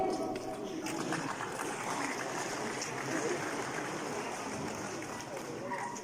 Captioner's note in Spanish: Aplausos del publico